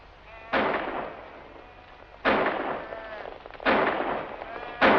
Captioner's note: gunshots